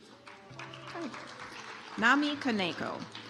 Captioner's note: audience applauds